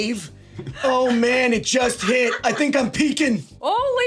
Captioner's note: SungWon and Sarah laughing